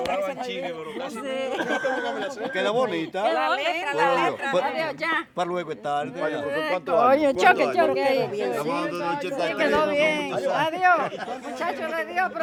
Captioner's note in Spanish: charlando animadamente